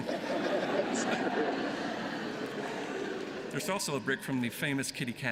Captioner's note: laughter